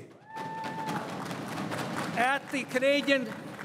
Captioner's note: crowd cheering and applauding